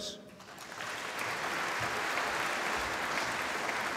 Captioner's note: applause